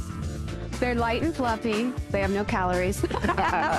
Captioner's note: both laugh